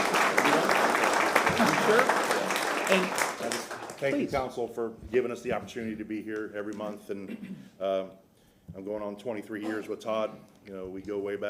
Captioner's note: applause